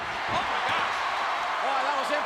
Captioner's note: audience cheers